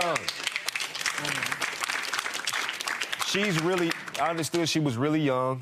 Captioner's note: audience applauding